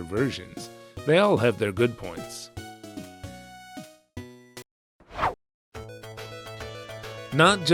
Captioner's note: whoosh